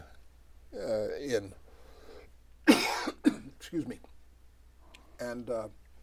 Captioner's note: coughs